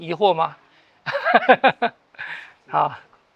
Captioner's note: laughs